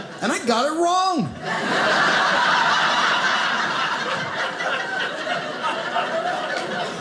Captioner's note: audience laughing